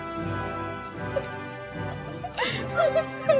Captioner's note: laughing